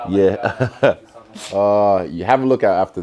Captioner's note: Israel laughs